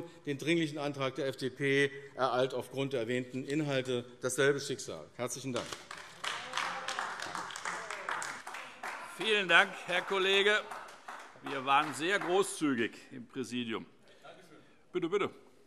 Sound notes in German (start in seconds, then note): 5.5 Beifall AfD